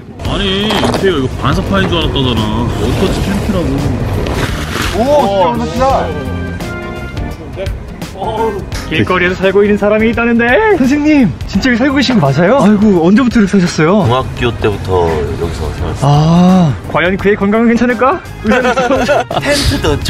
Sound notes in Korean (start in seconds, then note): 18.4 웃음소리